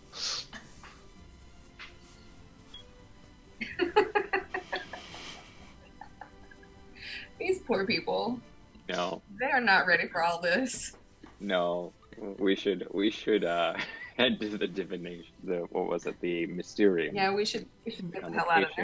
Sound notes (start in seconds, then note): 3.6 laughs